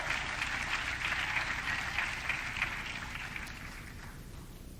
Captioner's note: audience cheering